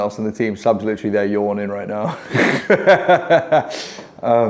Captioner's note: laughing